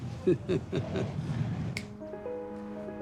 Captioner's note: chuckles